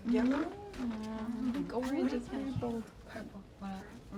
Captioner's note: chatter